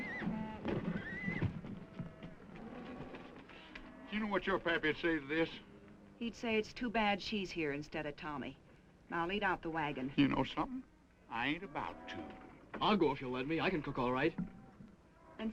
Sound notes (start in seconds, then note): 0.0 horse hooves clopping; 0.8 horse neighing